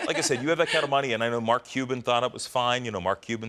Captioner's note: laughter